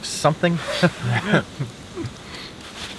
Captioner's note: both chuckle